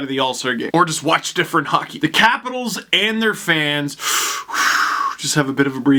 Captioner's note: deep breath